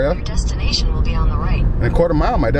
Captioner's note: GPS Speaking